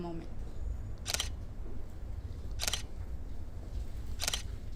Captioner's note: shutter snaps